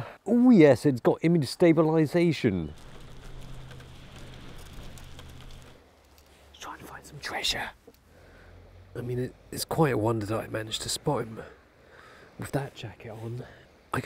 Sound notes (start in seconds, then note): 6.4 whisper